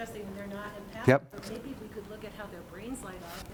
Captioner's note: voiceover